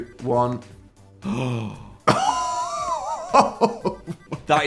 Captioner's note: gasp